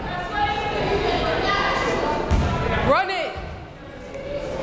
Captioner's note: crowd chattering faintly